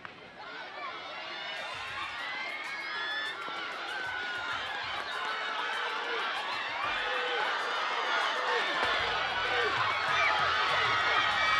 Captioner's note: shouting